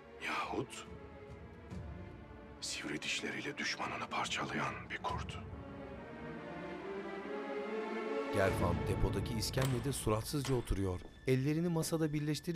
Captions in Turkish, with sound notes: ...yahut sivri dişleriyle düşmanını parçalayan bir kurt. (Kapı açılma sesi)